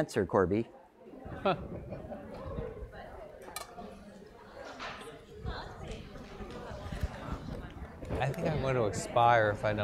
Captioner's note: laugh